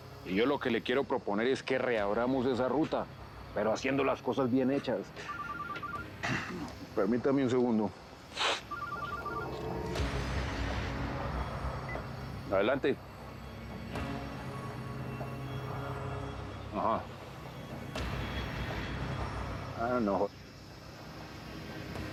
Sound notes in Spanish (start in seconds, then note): 5.2 Suena el celular